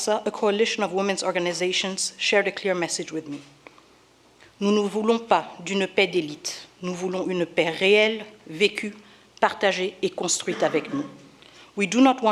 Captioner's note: in French